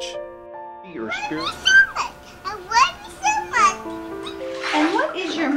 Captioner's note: babies babytalking